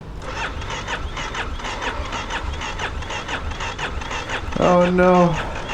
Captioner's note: bike engine turning over